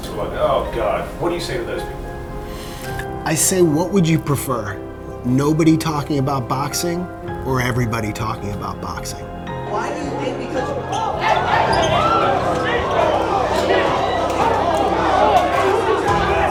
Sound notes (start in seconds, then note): 10.8 audience screaming; 13.6 shouting